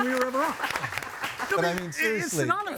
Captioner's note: laughing